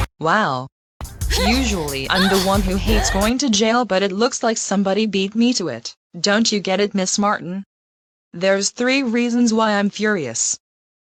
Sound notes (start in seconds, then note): 5.2 straining